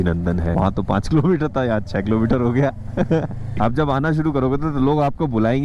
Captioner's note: chuckles